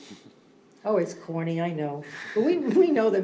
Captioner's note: laughter